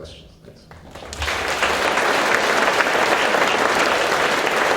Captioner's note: audience applauds